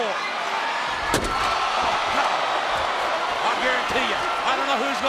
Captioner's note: applause